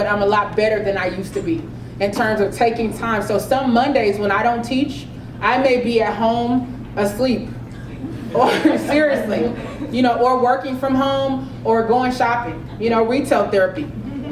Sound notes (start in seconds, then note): 7.8 laugh; 14.0 laugh